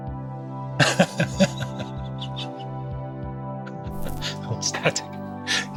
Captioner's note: laughs